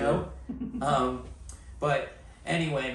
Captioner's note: laughs